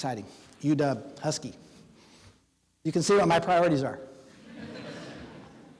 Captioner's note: audience laughing